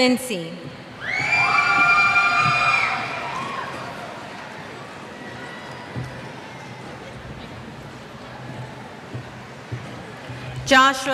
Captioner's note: cheers